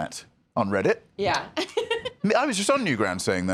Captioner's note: laughs